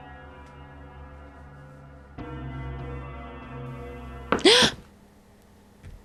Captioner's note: gasp